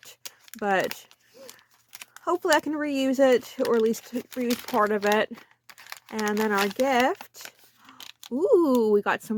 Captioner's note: gasp